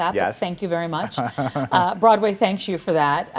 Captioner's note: laughing